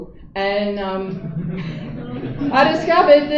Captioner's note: laughter